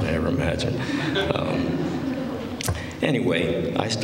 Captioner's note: laughter